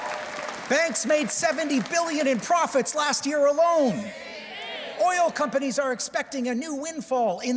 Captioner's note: cheers and Applause